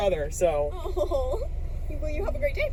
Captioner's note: laughs also